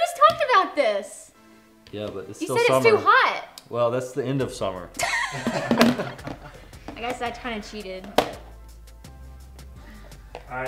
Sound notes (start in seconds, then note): 5.0 laughing